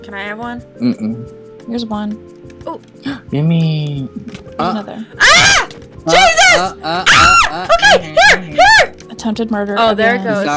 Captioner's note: gasp